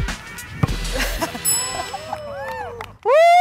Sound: buzz; group groans; laughter; chime

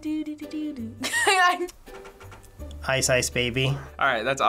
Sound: laughs

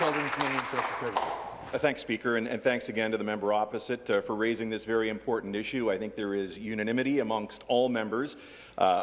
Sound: some Applause

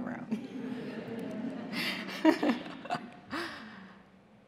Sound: audience laughing

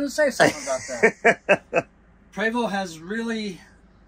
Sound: laughs

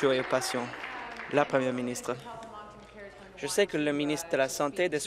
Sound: applause

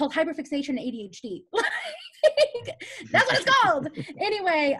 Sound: laughs

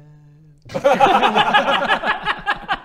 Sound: reckless laughter

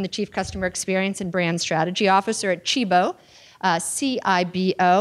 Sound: none

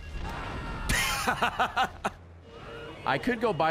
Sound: laughs

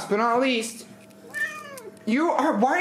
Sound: meows

